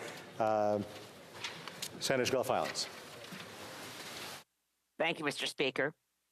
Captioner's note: speaking French